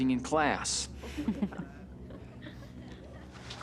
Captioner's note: chuckling